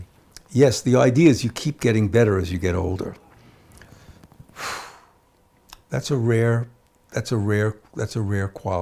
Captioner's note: sighs